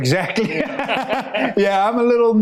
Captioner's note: both laughing